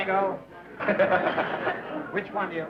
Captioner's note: laughter